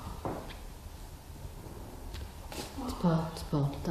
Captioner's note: taps faintly